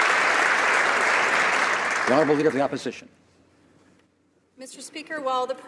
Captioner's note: applause